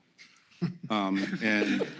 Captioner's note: laughter